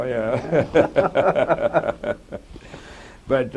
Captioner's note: laughter